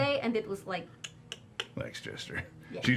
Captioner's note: clicks tongue